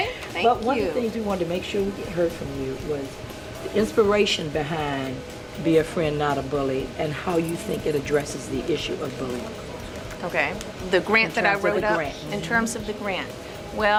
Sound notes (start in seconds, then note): none